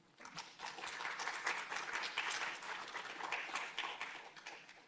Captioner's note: audience applauding